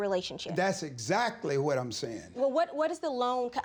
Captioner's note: stutters